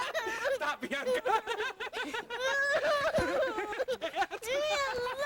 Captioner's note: laughs; cries